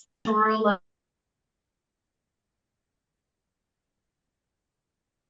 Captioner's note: audio cuts out